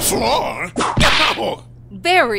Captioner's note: whip crack!